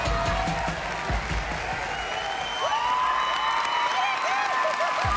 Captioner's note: applause